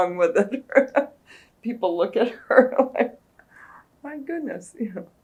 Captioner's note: laughs